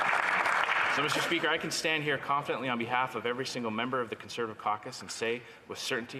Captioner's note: some Applause